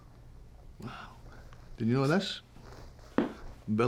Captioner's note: scottish accent